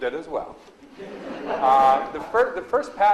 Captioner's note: audience laughs